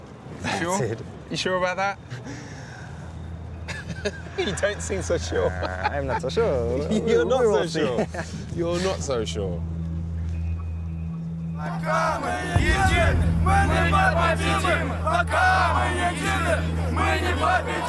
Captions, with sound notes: - You sure? - That's it. - You sure about that? (laughs) You don't seem so sure! - I'm not so sure. - You're not so sure. You're not so sure. While we're united, we'll never be defeated!